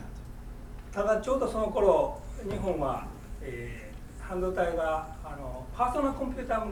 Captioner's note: speaking in foreign language